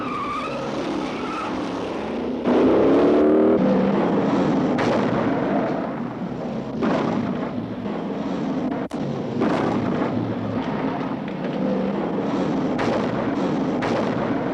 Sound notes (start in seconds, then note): 0.1 tires screeching; 2.6 car engines revving